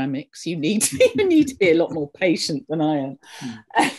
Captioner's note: laughs